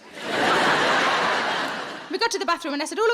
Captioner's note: audience laughing